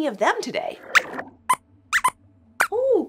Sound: squeaks squeaks

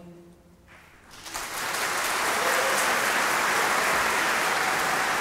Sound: audience applauding

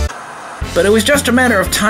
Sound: TV static

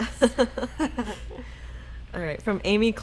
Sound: laughing

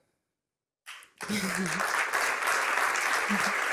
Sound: applause

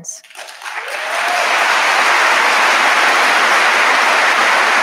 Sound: audience applauding

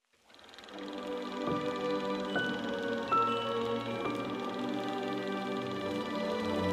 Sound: film reel clicking; light orchestral music

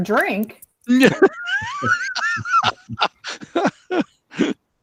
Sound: laughs

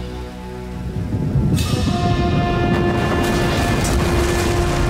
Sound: crumbling

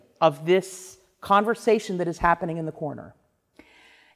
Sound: none

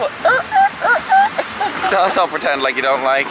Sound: imitates squeaking

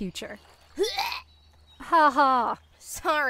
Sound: fake gagging noise

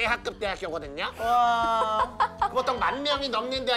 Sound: laughing

